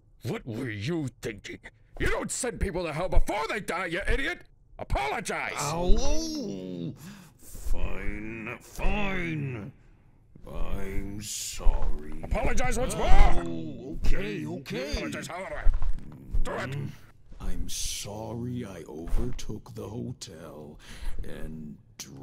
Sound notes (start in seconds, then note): 10.3 under breath, sarcastic; 16.4 groan